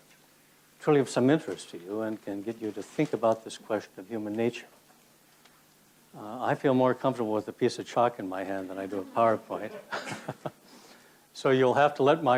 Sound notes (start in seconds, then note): 8.6 laughs